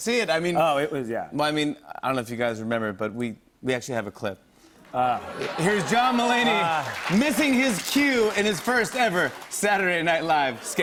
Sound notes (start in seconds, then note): 4.9 laughter and applause